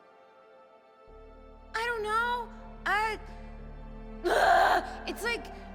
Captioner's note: screams